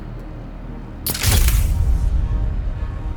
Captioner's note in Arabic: بناء موسيقى متوتر; نقرات مصراع الكاميرا